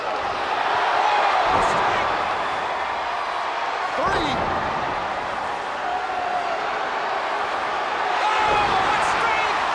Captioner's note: crowd cheering